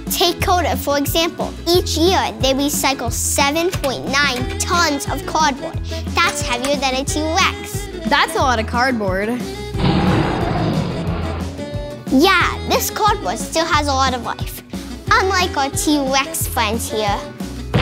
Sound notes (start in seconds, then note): 9.8 dinosaur roaring